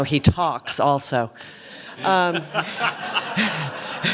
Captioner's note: laughter